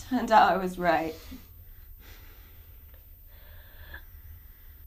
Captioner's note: heavy breathing